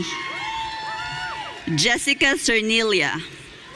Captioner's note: audience cheering; audience cheering